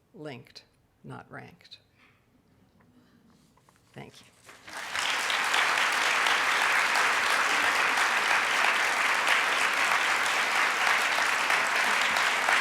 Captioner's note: audience clapping